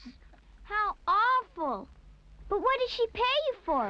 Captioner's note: none